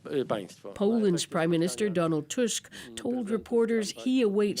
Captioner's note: speaking alternate language